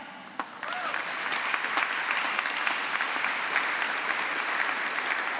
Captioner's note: applause